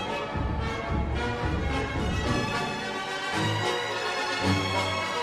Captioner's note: crowd members cheering